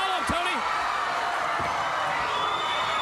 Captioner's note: crowd cheering